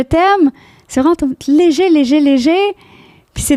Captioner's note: in french